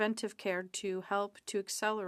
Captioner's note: speaking French